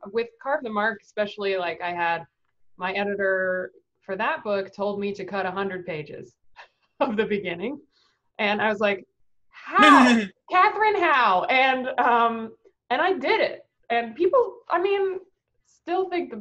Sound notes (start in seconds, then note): 9.8 laughs